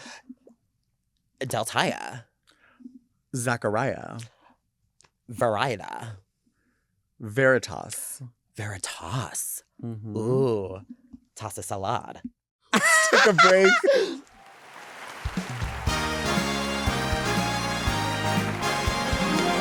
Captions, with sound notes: - Deltia. - Zachariah. - Varieta. - Veritas. - Veritas, ooh. Toss a salad. (laughing) - Take a break. (audience applauding) (upbeat music)